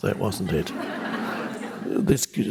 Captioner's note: people laughing